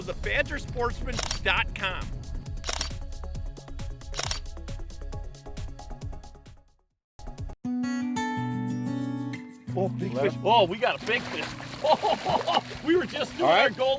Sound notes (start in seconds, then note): 1.7 camera clicking; 7.8 guitar plucking; 11.0 chuckling